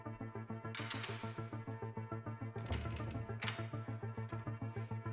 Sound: door rattling

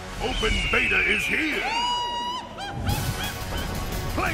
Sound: scream

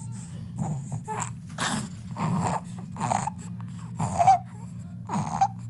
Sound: baby breathing squeakily

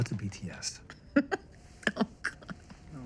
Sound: laughs

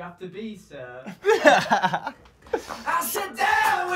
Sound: laughing

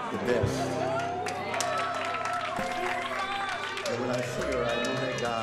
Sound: cheering

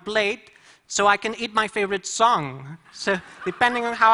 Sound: laughter

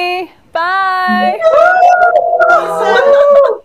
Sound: cheering

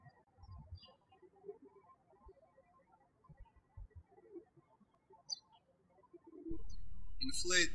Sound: birds chirping

